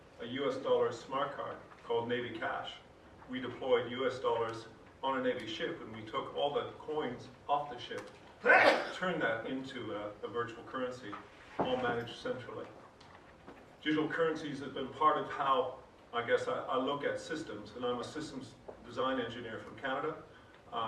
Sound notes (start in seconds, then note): 8.4 man in audience sneezes